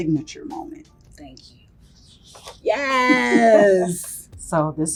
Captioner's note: laughs